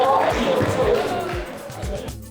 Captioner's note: applause